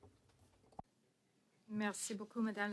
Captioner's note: speaking French